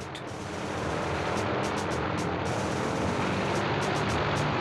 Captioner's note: plane roaring